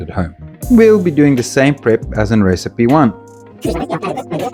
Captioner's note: sped Up Gibberish talk